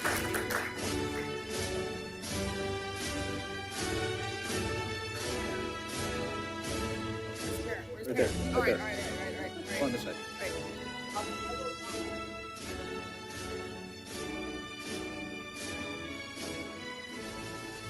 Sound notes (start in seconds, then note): 7.4 participants chattering